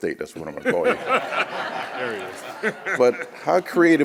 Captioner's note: audience laughs